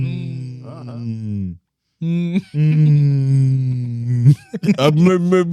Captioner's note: speaking In Foreign Language